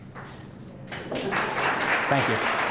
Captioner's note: applause